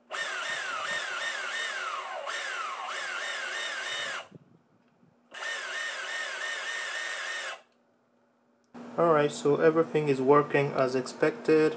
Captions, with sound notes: (engine revving) All right, so everything is working as expected.